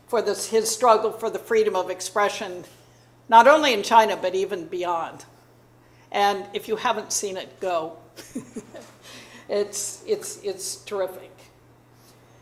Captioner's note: chuckling